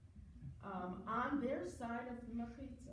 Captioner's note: foreign language